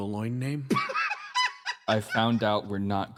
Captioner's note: laugh